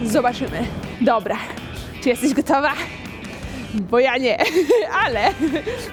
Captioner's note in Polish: śmiech